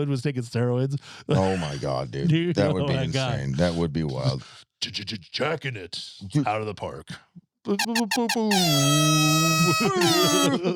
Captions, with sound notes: (laughing) Can you imagine that? Can you imagine if Reese Atwood was taking steroids? Oh my God, dude. That would be insane. Oh my God. That would be wild. J-j-j-jacking it out of the park.